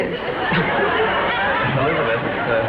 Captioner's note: coughs; audience laughs